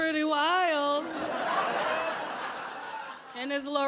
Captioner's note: audience laughing